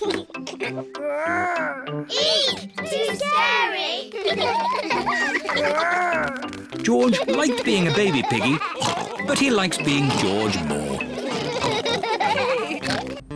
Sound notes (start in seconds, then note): 0.0 giggles; 6.8 all laugh